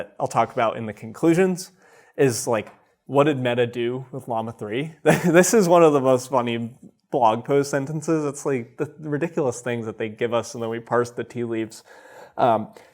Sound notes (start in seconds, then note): 5.1 chuckles